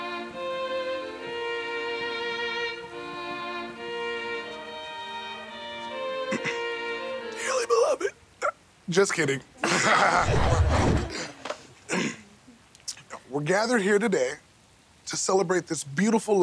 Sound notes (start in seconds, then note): 6.3 clearing throat; 9.6 laughing; 11.8 clearing throat